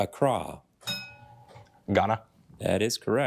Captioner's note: bell dings